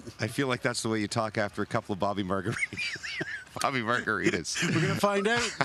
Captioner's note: speaking German